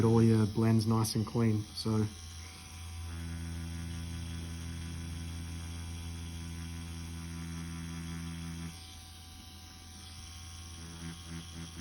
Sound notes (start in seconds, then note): 2.7 machine whirring